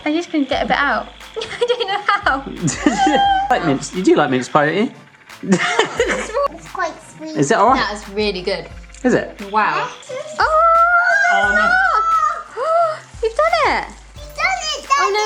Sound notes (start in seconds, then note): 5.4 laughing; 9.9 excited screaming